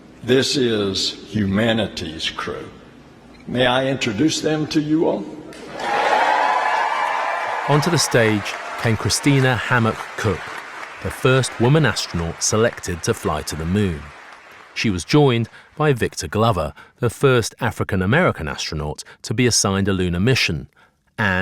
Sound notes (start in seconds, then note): 5.8 audience cheering